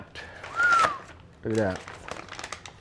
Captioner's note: whistles